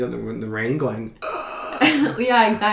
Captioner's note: gasping sounds